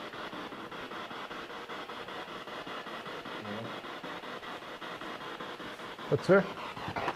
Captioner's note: radio noise from the spirit box